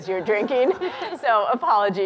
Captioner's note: laughter